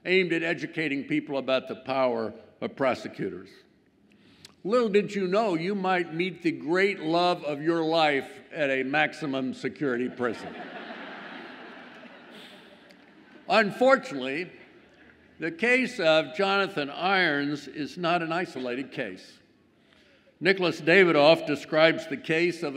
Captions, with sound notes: aimed at educating people about the power of prosecutors. Little did you know, you might meet the great love of your life at a maximum security prison. (audience laughs) Unfortunately, the case of Jonathan Irons is not an isolated case. Nicholas Dawidoff describes the case